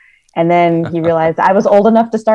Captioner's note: chuckles